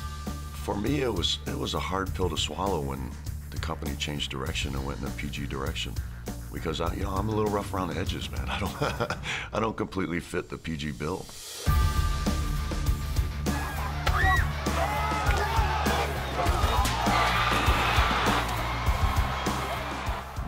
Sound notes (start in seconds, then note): 8.4 laugh